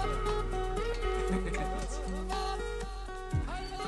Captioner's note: laughs; techno pop music